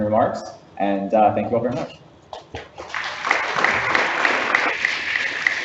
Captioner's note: audience applauds